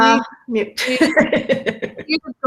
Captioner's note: laughter